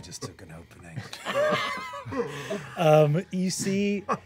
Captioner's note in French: rires